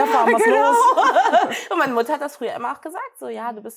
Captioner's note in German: Gelächter